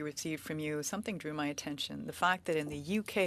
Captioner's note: speaking French